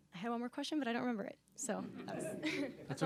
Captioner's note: laughter